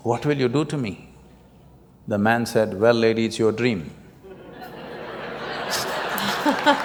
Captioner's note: laughter